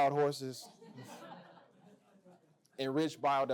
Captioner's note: laughter